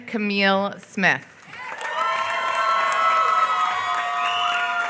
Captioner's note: applause